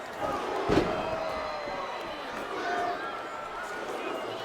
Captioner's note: body thuds